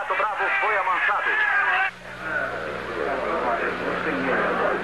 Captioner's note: chattering